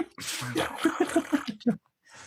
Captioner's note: laughing